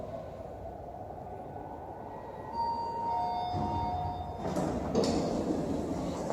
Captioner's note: chime